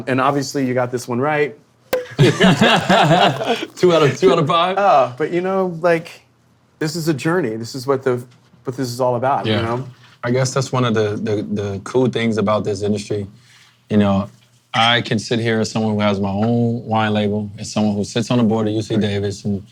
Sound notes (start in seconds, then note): 1.9 cork popping; 2.0 men laughing